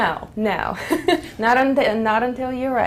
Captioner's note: laugh